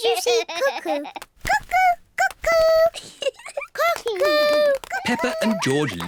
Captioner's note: laughs; giggles